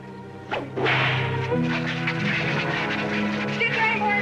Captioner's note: cracking whip